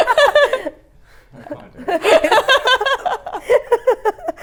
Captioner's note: laughs